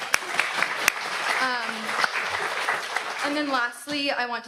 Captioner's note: audience applauds